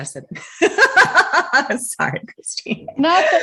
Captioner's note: laughing